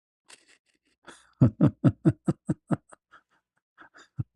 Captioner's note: ketawa